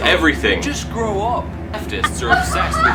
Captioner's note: more laughter